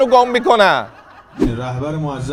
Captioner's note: laughter